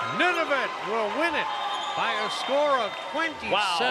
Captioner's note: cheers and Applause